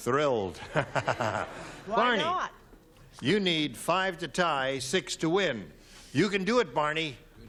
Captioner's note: laughs